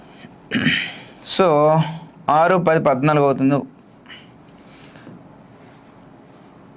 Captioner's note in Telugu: గొంతు సవరించుకోవడం